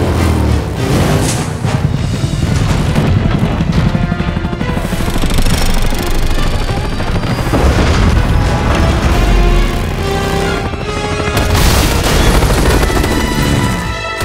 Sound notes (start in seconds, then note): 1.6 helicopter whirring